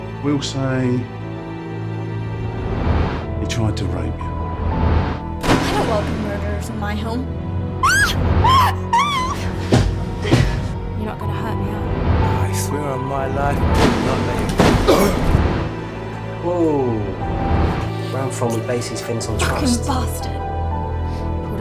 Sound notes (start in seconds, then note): 7.8 screaming; 13.7 gunshots